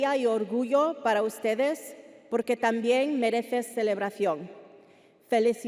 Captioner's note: speaking Spanish continues